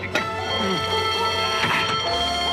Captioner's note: ringing resumes